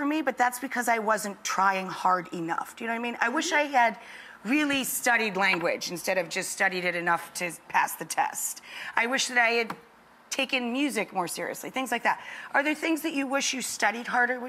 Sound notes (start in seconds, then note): none